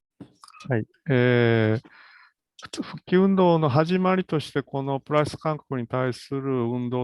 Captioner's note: speaks in Japanese